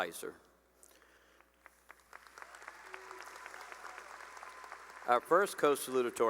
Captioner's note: cheering and applause